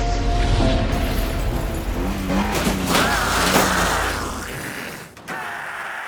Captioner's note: truck revs and runs over three zombies; Zombies continue to scream as Miss Keller knocks on the door